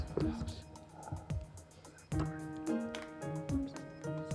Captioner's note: whispering